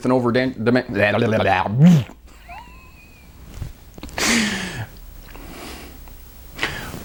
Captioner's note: wagging tongue & making funny noises